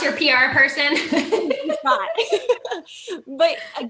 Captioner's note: both laughing